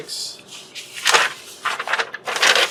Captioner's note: paper flips